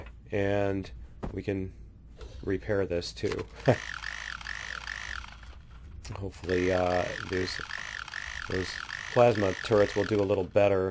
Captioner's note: laughs